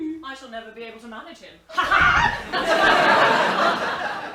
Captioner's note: both laugh